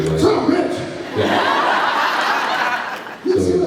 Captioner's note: laughs